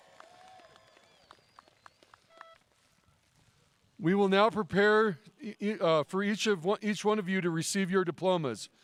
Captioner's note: cheering and applause